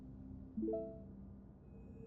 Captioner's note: email dings